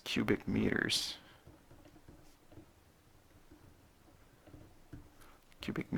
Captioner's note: writing